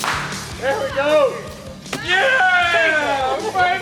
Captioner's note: airgun firing; hunters laughing